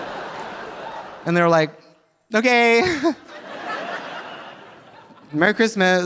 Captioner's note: audience laughing; laughs